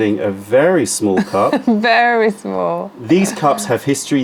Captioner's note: laughter